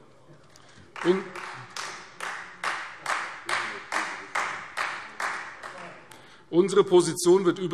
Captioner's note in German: Beifall Freie Demokraten